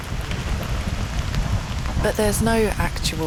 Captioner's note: thunder